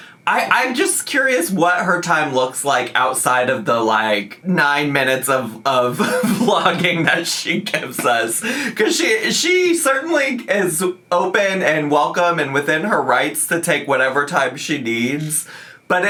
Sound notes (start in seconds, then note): 5.9 laughing